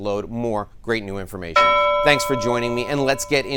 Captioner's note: bell ringing